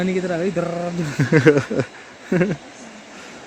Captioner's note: laugh